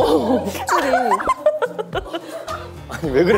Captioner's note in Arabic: هههه